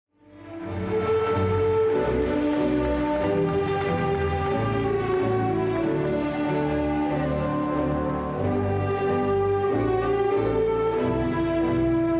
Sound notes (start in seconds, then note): 0.0 cheerful classical music; 0.0 crowd applauding; 6.6 crow cheering; 8.5 cheerful classical music